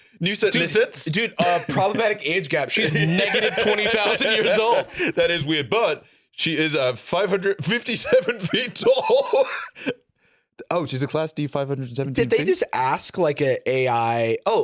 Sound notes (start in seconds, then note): 7.6 laughs